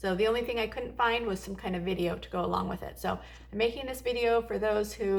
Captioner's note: in English